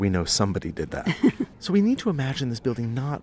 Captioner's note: chuckles